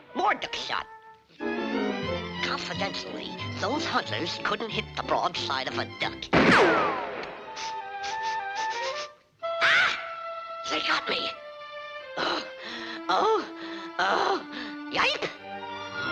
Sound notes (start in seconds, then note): 6.3 gun fires; 7.5 Daffy sniffing; 13.0 groaning